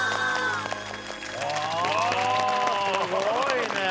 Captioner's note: clapping